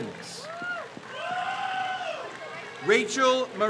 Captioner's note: crowd cheers